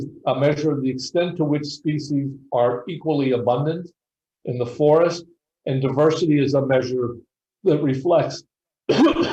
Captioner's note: cough cough